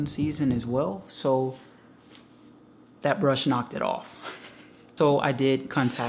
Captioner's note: laughs